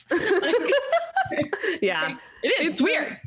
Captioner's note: laughing